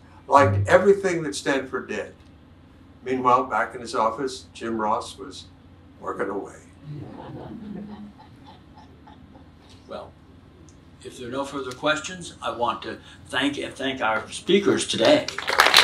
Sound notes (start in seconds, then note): 6.9 audience chuckles